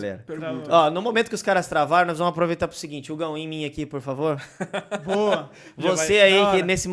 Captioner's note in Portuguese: Risos